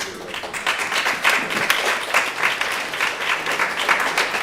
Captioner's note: applause